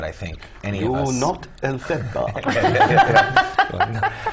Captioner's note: laugh